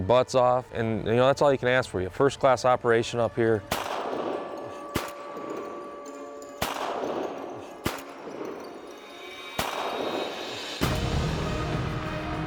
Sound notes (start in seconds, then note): 3.6 gun shots